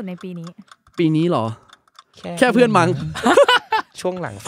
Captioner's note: laughing